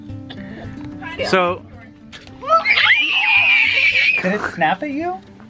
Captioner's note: all Kids Scream